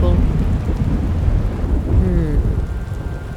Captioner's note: thunder Rumbling